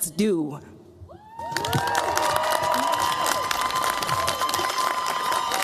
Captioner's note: cheers, applause